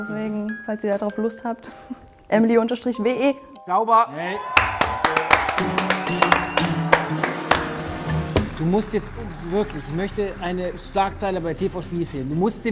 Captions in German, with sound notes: Deswegen, falls ihr drauf Lust habt: emely_we. Sauber! (Jubel, Applaus) (Flirrende Musik) Du musst jetzt wirklich, ich möchte eine Schlagzeile bei dir vor Spielfilmen.